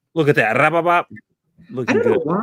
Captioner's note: trills